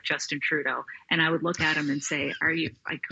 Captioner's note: laughing